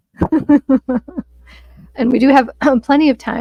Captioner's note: laughing